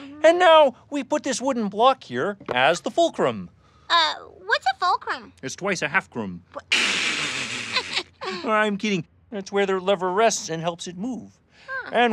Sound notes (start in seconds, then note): 6.6 laughing